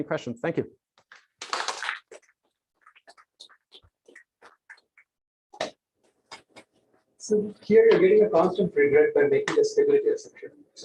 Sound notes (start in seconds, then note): 1.4 applause